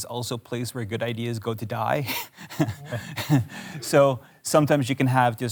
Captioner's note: chuckles